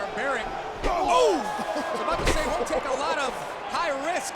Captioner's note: laugh